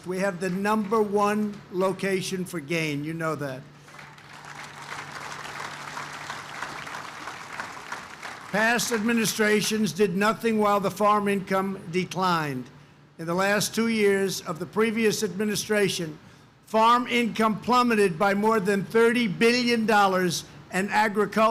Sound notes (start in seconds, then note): 3.7 applause